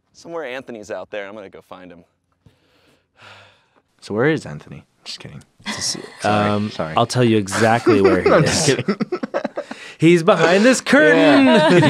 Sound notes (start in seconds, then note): 2.5 sighs